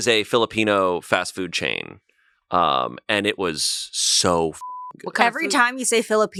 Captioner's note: beep